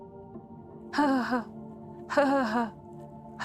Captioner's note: mimics sobbing